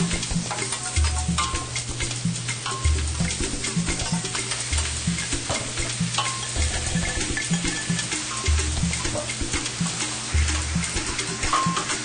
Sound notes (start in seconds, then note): 1.0 clanging; 7.1 sizzling